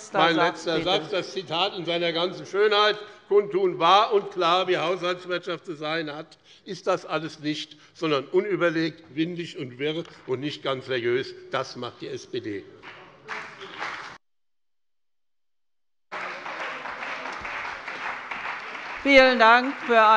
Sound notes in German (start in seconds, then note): 13.1 Beifall bei dem BÜNDNIS 90/DIE GRÜNEN und der CDU